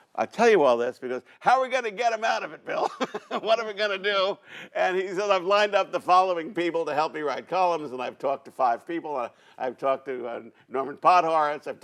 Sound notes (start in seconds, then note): 2.7 laughs